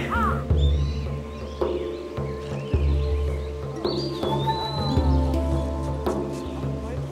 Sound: birds chirping; drums

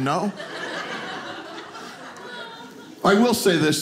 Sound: audience laughing

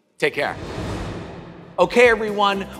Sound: air swooshing

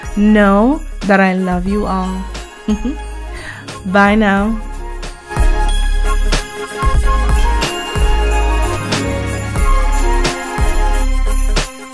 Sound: giggles

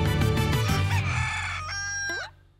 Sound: rooster crowing

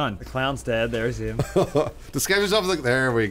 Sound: laughing

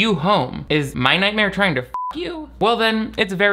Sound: beep

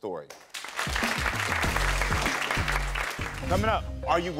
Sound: audience applauding

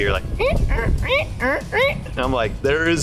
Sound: vocalize squeaks

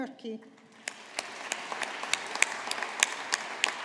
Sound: audience applauding

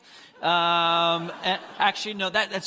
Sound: congregants laughing

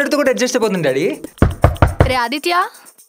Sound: door banging sound

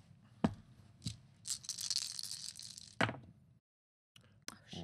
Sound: dice rattling

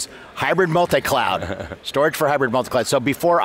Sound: laughs

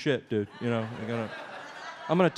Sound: audience laughs

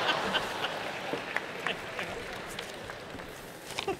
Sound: laughter

